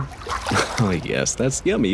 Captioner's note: water splashes